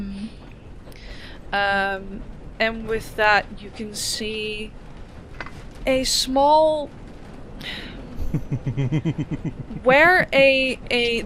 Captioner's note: chuckles